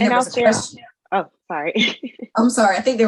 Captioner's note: laughs